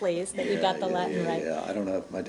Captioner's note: laughter